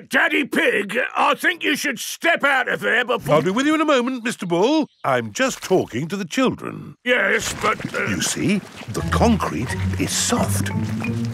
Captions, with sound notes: Er, Daddy Pig, I think you should step out of there before... I'll be with you in a moment, Mr. Bull. I'm just talking to the children. Yes, but... (STUTTERS) You see, the concrete is soft.